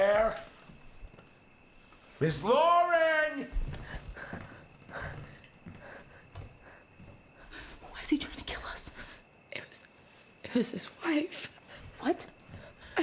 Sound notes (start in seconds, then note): 3.7 Claire panting